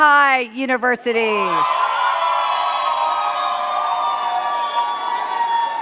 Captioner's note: cheers and claps